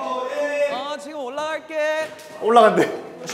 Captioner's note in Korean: 멀리서 들리는 음성